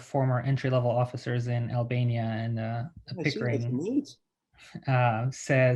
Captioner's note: mumbling